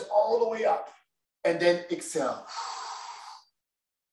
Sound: exhales

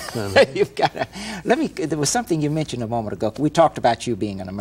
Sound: chuckles

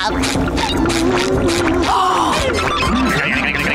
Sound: laughing; gasping

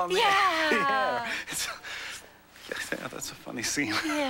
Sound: laughs

